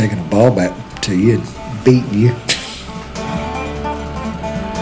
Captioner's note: laughs